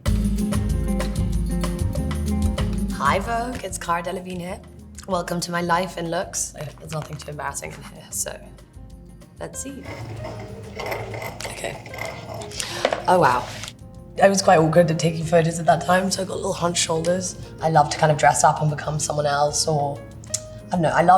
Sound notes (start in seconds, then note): 0.0 upbeat music; 9.7 pen spinning on table